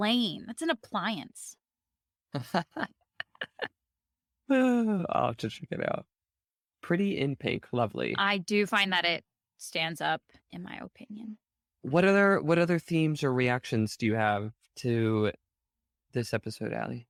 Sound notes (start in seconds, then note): 3.1 chuckling; 4.5 sigh